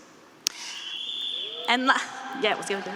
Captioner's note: student whistling; students cheering